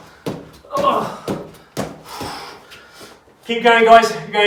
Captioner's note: groans